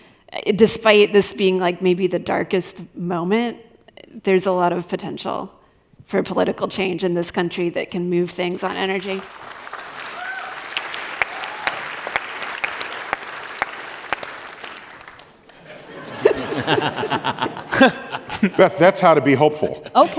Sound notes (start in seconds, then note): 15.4 applause